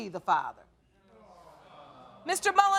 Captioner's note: men in audience groaning